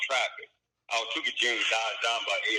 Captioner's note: mutters